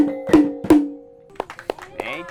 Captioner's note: applauds